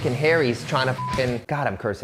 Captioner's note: beep